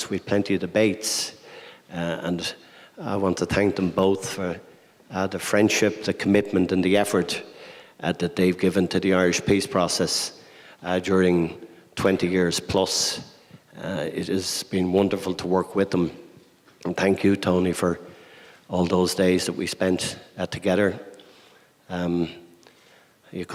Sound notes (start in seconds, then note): none